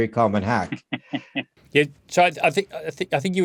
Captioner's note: laughs